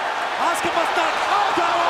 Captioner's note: crowd cheering